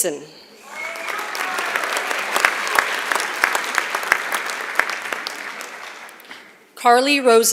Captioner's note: applause